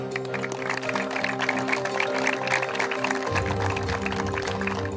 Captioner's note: children applaud